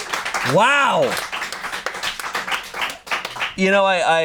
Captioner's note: audience cheering; audience applauding